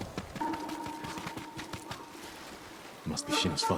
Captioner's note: birds chirping